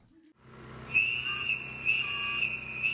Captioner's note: whistles blowing